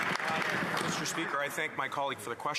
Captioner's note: applause